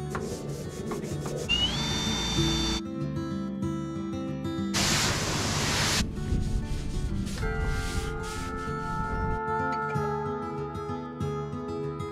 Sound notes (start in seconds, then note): 0.2 broom rustles; 1.4 drill hums; 4.8 water swishing; 6.4 broom rustles